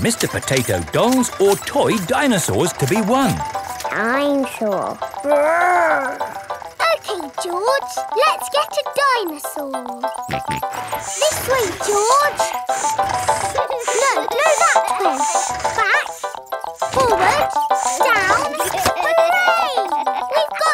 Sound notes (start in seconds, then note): 10.3 george snorts